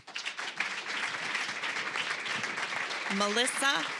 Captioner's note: applause